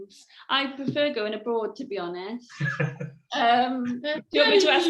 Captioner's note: laughs